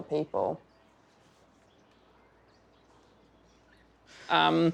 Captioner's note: birds chirping